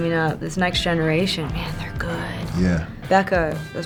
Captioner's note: whispers